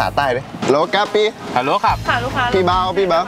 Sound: southern accent

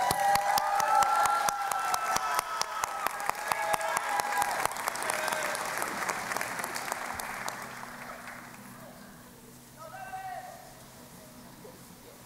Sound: cheering and Applause

